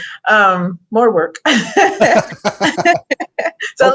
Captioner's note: laugh